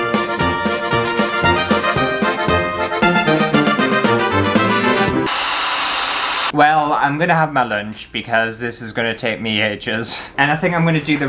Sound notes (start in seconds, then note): 5.2 balloon Inflating